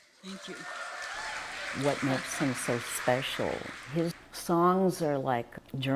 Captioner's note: applause